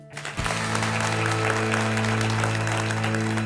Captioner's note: applause